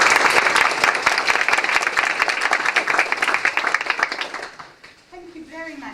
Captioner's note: applause